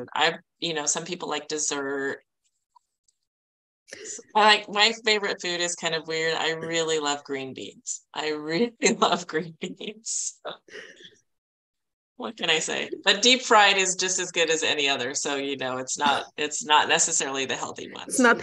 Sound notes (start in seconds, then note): 11.0 chuckling